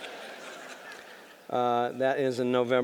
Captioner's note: audience laughing